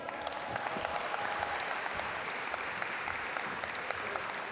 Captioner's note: audience applaud